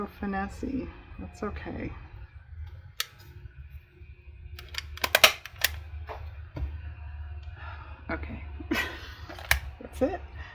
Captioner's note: laughs